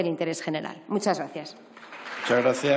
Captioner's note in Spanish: Aplausos